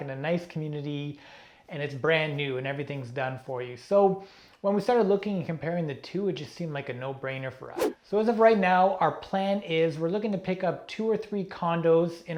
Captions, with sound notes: and a nice community and it's brand new and everything's done for you. So when we started looking and comparing the two, it just seemed like a no brainer for us. (air whooshing) So as of right now, our plan is we're looking to pick up two or three condos